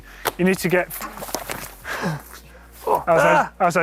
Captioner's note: thudding